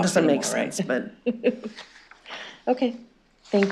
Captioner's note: chuckling